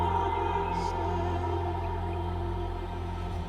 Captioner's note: sings in foreign language; birds chirping; dramatic music